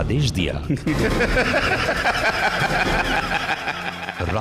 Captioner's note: laughs